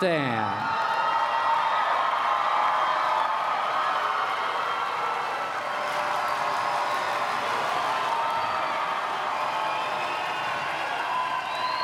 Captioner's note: applause and Cheering